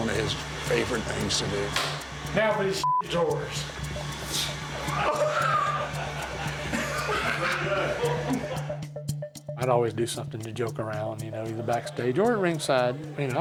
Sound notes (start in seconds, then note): 2.8 beep; 4.2 laughs